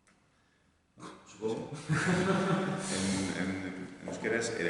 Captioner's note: laughs